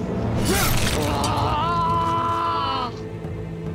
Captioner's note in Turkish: Çığlık sesi